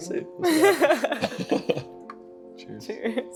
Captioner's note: both laughing